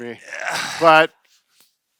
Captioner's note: grunting